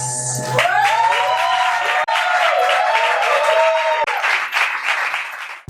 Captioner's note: applause